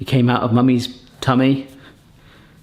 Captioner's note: none